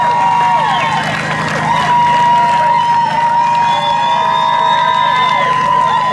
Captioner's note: continued cheering and screaming